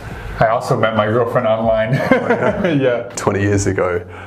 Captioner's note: laughs